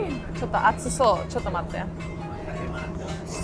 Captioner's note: speaks Japanese; traditional music